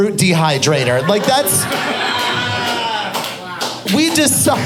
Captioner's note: audience laughing